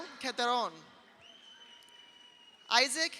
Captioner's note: audience cheers; audience applauds